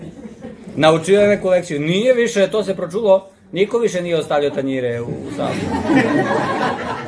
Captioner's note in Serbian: смех